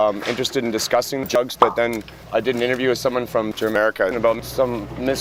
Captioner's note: pop